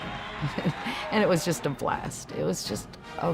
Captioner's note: chuckles